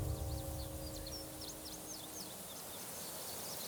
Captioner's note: birds chirping